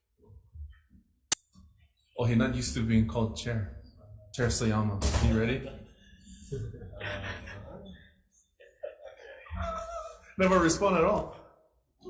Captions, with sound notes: Oh, he not used to being called chair. Chair Sayama, you ready? - (chuckles) Uh-huh. (laughs) Never respond at all.